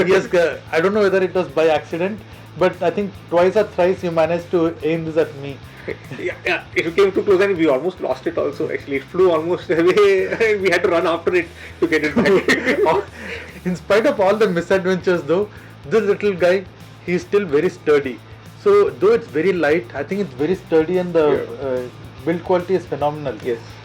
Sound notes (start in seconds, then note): 8.1 drone